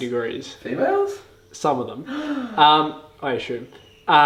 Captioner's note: man gasps